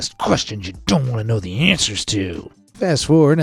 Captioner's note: in a stern voice